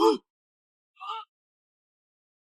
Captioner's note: shouts